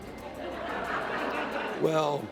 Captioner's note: laughter